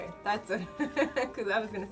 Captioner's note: laughs